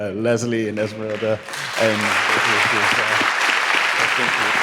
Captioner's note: audience clapping